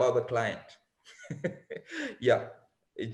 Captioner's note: chuckles